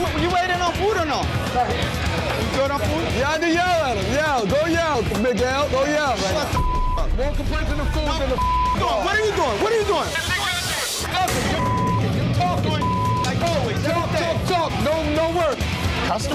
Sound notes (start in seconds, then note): 6.5 beep; 11.4 beep